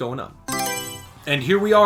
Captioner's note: Mario Selection Sound